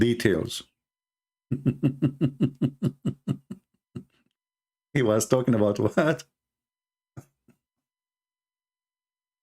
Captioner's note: Ketawa